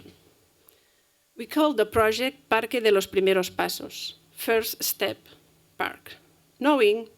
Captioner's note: spanish